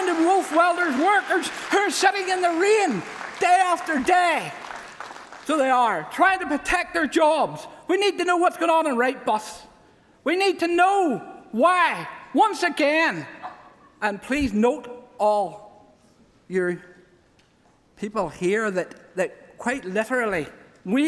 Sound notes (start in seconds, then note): 3.9 applause